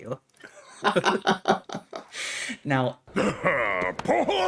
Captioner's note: laughing